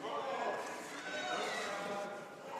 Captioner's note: speaking French